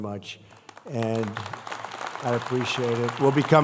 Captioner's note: applause